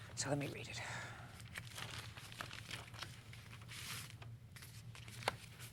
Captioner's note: paper rustling